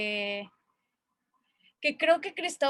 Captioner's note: pause